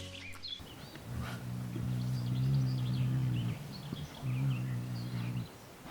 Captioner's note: delikatny szum wiatru, cichy śpiew ptaków